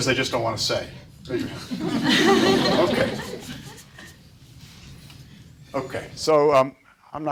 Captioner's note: audience laughs